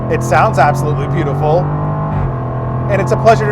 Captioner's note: engine roars